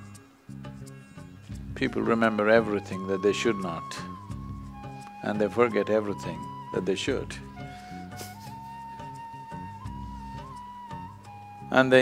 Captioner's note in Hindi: हंसते हैं